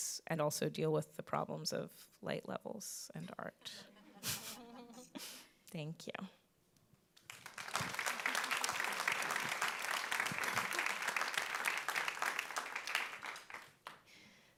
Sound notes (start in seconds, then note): 4.0 all chuckling; 7.2 audience clapping